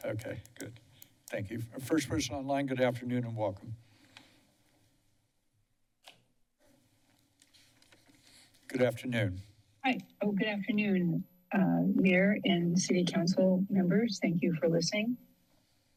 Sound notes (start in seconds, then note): 4.2 silence